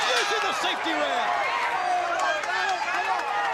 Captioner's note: crowd cheering